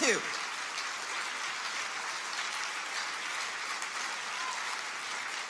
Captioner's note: audience applauds